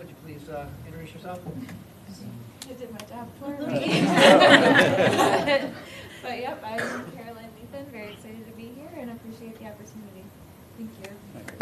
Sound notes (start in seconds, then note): 3.8 laughter